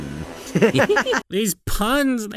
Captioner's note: both start laughing